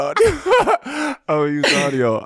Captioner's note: laughing